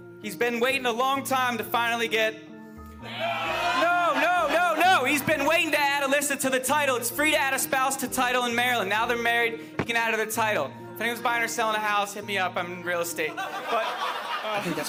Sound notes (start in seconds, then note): 3.0 crowd cheers; 13.3 crowd laughs